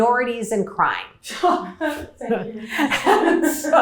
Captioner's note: laughter